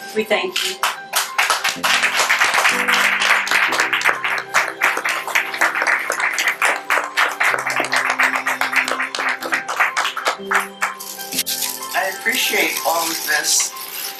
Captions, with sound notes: We thank you. (Audience applause) I appreciate all of this.